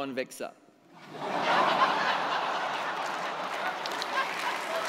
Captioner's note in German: Lachen, Applaus